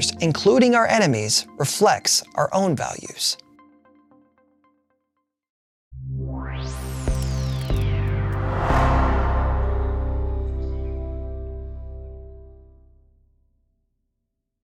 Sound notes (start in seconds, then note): 6.5 logo whooshing; 6.5 gentle music